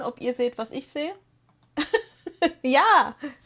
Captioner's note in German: gelächter